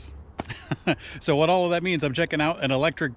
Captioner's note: chuckles